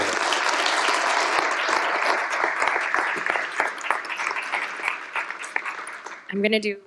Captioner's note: applause